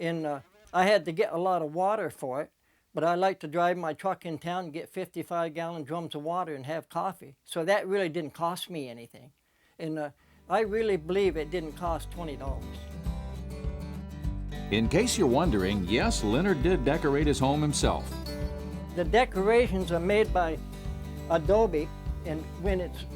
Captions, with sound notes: I had to get a lot of water for it, but I like to drive my truck in town and get 55 gallon drums of water and have coffee. So that really didn't cost me anything. I really believe it didn't cost $20. - [Voiceover] In case you're wondering, yes, Leonard did decorate his home himself. - The decorations are made by adobe, and when it's wet,